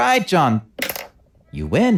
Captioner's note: pencil drop